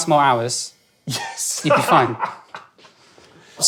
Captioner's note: laughs